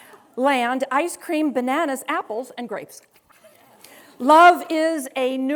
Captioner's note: students laughing